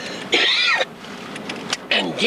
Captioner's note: coughs